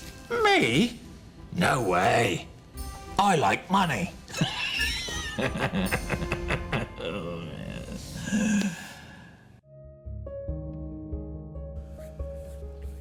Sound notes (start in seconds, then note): 4.3 laughs; 9.6 slow tempo music